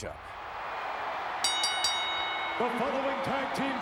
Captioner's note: bell dings